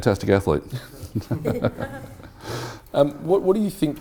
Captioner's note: laughing